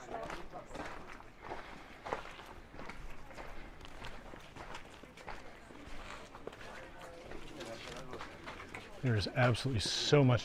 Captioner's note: background chatter